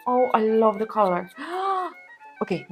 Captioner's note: gasps